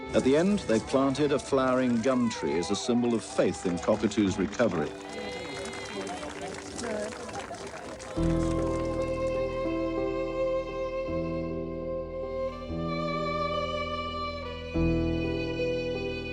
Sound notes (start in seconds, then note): 5.8 crowd cheers; 9.2 engaging dramatic music